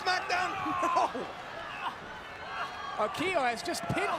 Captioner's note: laugh